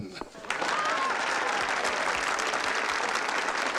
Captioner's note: crowd laughing